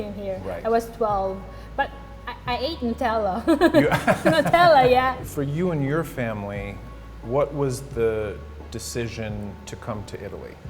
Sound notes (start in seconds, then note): 3.4 laughing